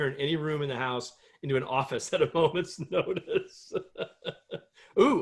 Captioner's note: laughter